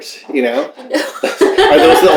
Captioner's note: laughter